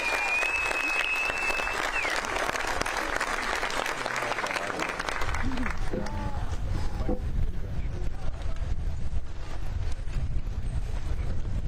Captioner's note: applause